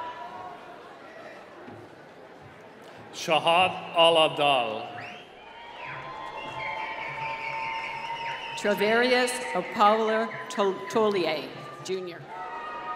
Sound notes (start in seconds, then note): 4.8 whistling; 12.7 applause